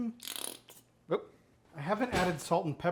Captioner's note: mustard Squirting